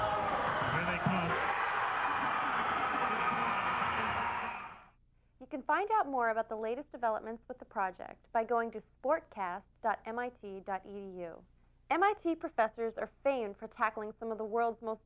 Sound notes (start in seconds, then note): 2.2 cheering